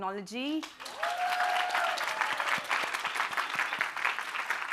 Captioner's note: applause